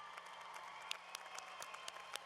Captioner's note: applause